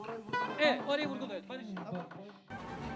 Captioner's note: speaking and singing Turkish